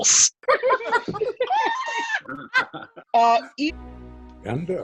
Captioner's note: group laughs